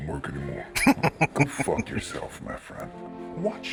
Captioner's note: laughing